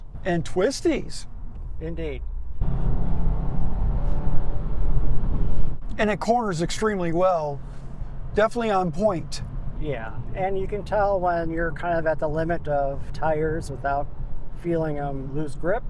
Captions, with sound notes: And twisties. Indeed. (engine revving) And it corners extremely well. Definitely on point. Yeah, and you can tell when you're kind of at the limit of tires without feeling them loose grip.